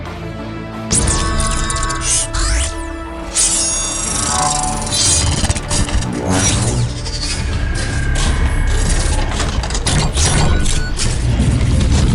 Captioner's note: mechanical Sound Effects